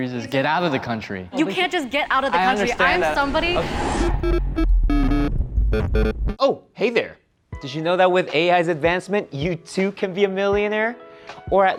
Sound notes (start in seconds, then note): 4.0 robotic sounds